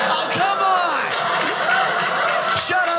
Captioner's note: audience applauding